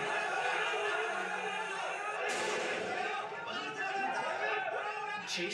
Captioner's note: crowd yelling and guns firing